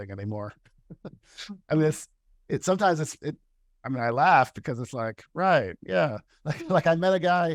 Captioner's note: laughter